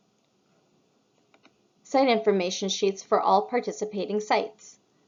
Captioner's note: click